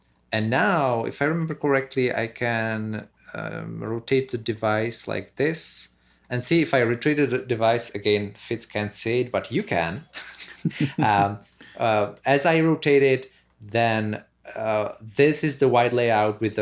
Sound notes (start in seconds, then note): 10.1 laughter